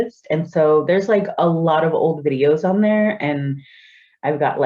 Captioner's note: none